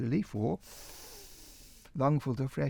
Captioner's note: inhales